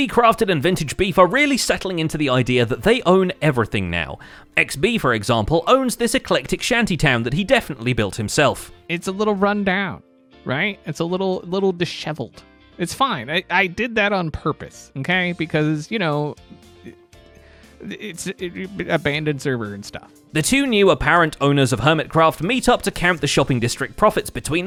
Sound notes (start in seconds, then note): 17.3 stammers